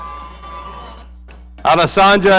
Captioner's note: audience cheering